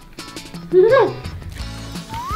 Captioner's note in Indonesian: tertawa